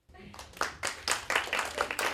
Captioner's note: applause